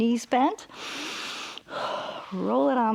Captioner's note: inhales and exhales